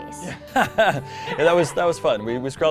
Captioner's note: laughter